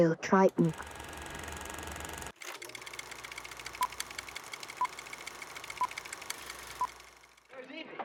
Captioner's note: film reel whirs; beeps